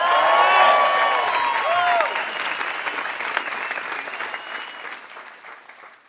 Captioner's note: applause